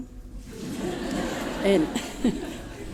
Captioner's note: laughter